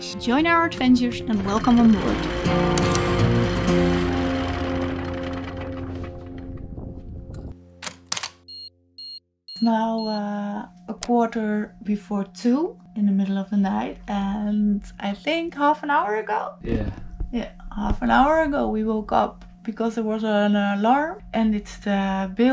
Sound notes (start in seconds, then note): 2.8 upbeat music; 7.4 alarm beeps